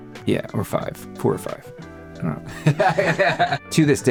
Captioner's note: laughing